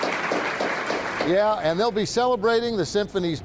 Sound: audience applauds

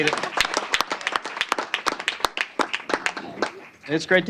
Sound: applause

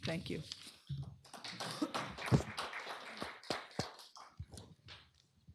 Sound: applause

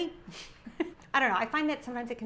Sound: laughs

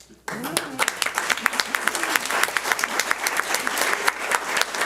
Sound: audience applauds

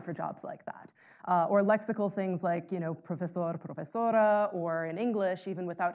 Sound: speaking in foreign language

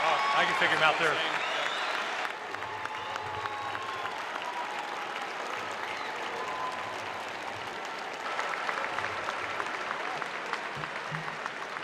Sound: cheers and applause

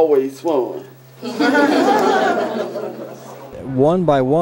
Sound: laughing

